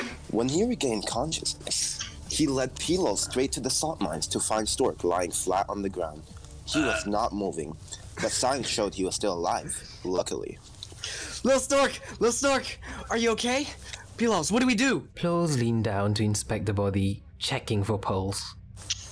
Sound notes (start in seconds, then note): 6.7 agghhh